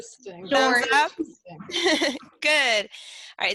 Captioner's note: laughs